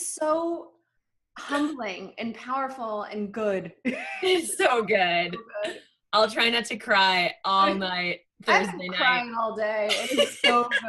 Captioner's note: laughter